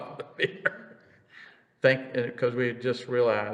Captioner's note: laughs